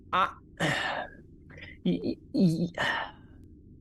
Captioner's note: stammers